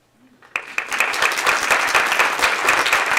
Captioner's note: applause